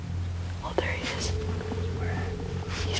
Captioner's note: whispering